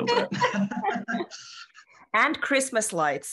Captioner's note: laughs